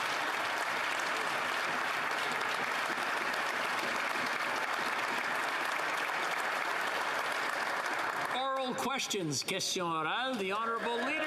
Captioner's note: applause